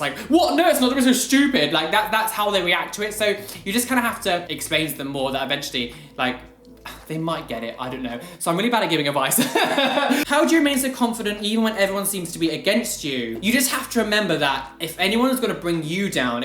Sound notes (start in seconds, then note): 9.4 laugh